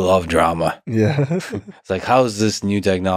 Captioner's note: laughs